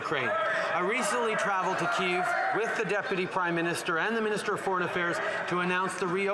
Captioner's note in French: voix de l'interprète